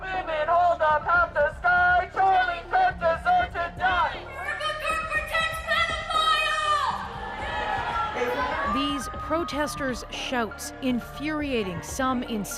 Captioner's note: chanting